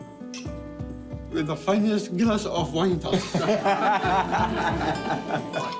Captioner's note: laughter